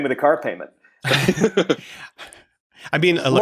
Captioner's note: laughter